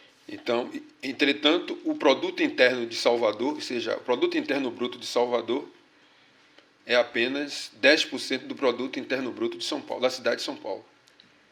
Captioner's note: speaking portuguese